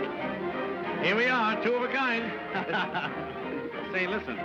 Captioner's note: laughs